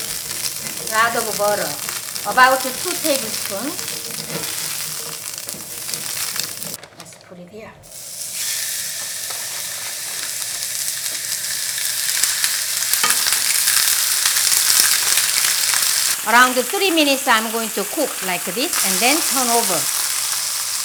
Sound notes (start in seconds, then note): 10.0 pan sizzling